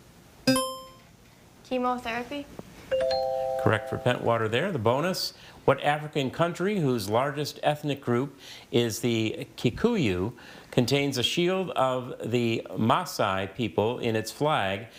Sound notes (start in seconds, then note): 0.5 buzzer chiming; 2.9 text chiming